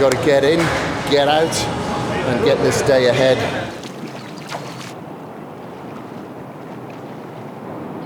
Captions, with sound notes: So I've gotta get in, get out, and get this day ahead. (rippling water)